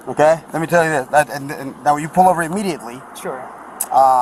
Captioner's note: stuttering